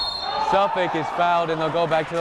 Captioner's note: whistle blowing